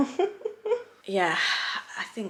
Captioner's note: laughing